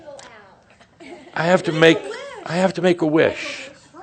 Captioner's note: more chuckles and someone says “Blow your candle out”; someone shouts “Make a wish”